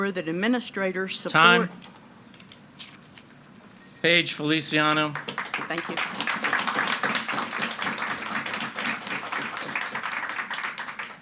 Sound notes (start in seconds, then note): 4.8 audience applauding